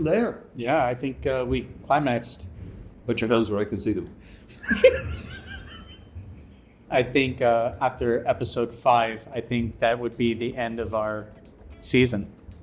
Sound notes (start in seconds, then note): 4.6 more wheezing